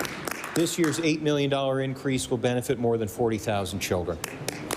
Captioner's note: applause